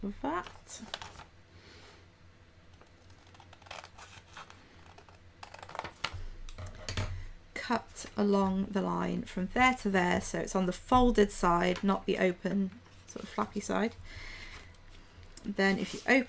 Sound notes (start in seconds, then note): 1.7 slicing sound